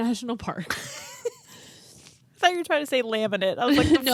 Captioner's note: laughs